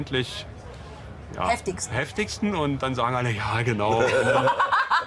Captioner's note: laughs